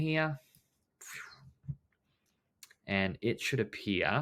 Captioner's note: imitating whooshing transition